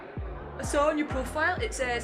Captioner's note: clap